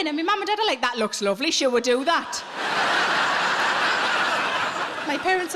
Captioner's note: audience laughing